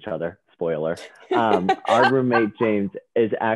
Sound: laughing

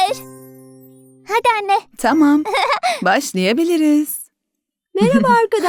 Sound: laughing

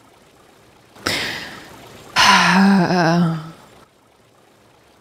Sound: sighs

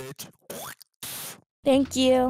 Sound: spits

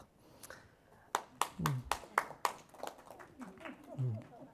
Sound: applause

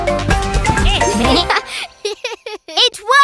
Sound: laughter

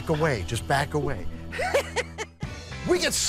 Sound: laughs

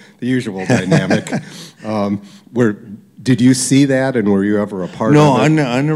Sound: laughter

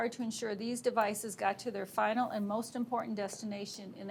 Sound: none

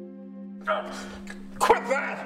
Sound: gasps

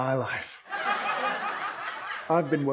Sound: audience laughs

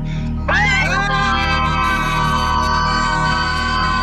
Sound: screaming in unison

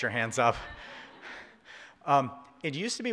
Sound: audience laughs

